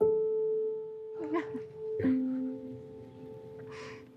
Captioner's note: softly crying